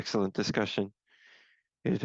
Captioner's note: speaking French